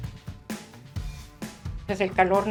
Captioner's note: woman speaking Spanish